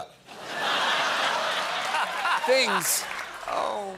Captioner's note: laughter